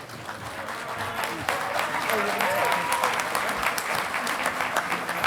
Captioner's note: audience applauding